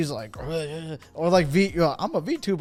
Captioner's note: grunts